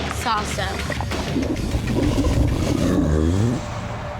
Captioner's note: belching